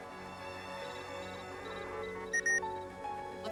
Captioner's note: beeps